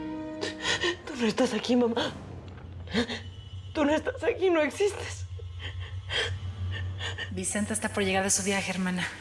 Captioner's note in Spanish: solloza